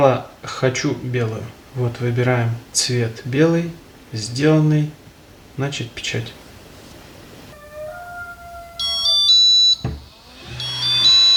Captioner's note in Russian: колокольчик